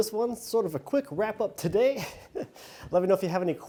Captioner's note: laughs